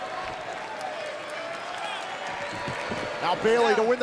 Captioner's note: crowd cheering